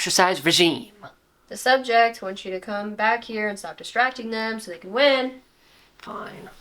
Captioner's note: sing-songy